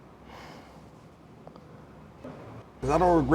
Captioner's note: sighs